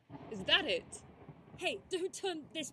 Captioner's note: distant thunder